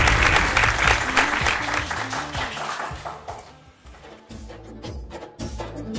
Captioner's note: applause